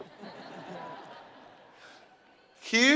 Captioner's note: laugh